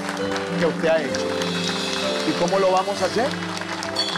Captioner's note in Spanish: Aplausos